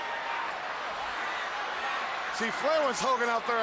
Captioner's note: crowd cheering